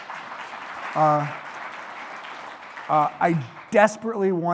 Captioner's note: applause